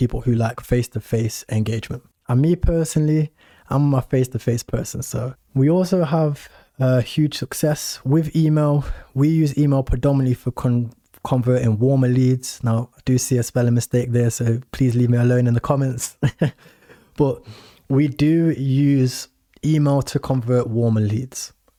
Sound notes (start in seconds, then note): 16.2 laughs